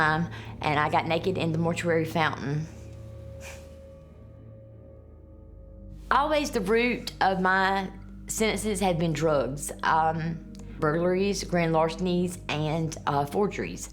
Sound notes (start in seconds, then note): 2.8 chuckles